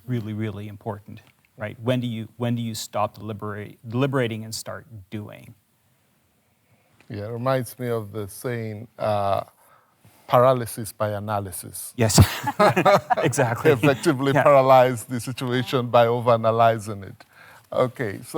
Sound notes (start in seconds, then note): 12.1 laughs